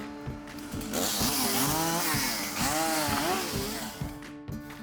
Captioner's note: chainsaw buzzing